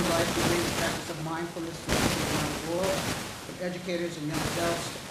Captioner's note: static hissing loudly